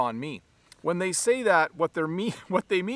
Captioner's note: laughs